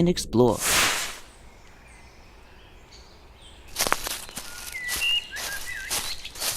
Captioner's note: engine stops, airlock pressure releases; birds chirping. Leaves crunching